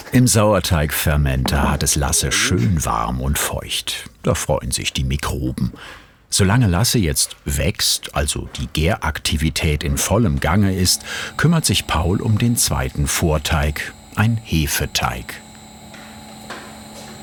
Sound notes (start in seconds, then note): 15.4 machine whirring